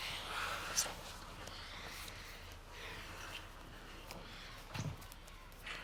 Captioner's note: both breathing heavily